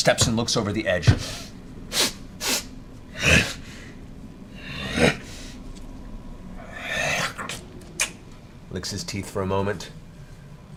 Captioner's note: sniffs and grunts